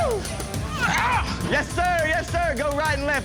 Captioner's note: grunting